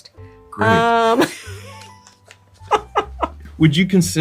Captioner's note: both laughing